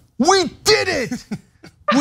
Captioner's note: laugh